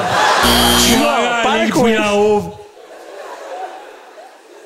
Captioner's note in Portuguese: campainha